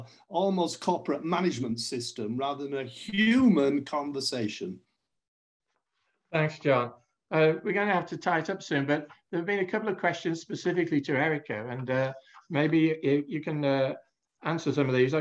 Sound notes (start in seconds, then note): none